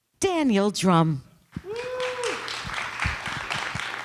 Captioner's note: applause